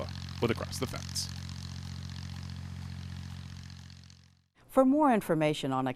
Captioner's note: sprinklers buzzing